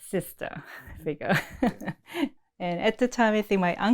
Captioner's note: laughs